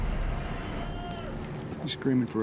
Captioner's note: man shouts